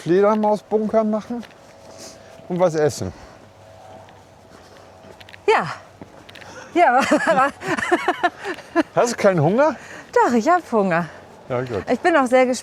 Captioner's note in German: gelächter